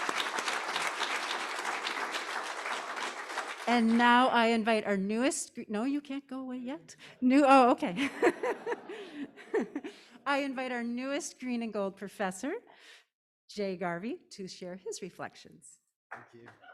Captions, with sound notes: And now I invite our newest, no, you can't go away yet. Oh, okay. (Dean laughing) I invite our newest Green and Gold Professor, Jay Garvey to share his reflections.